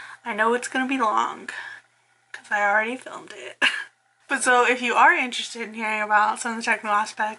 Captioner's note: laughs